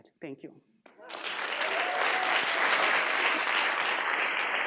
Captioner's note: applause